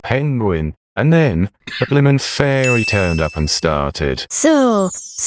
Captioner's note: ding